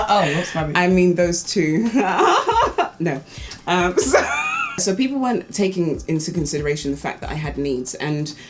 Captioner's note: laughs